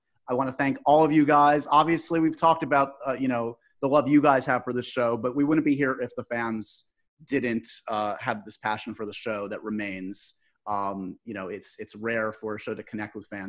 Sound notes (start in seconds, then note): none